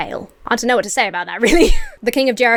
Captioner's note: Emma laughs